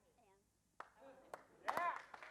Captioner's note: applause